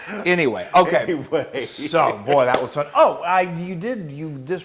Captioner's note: laugh